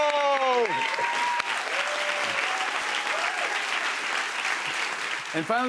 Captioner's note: cheers and applause